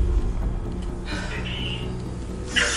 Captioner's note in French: sighs